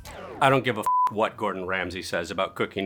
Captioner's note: beep